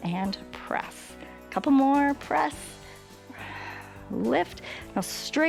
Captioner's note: exhales